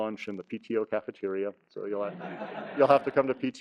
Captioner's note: audience laughs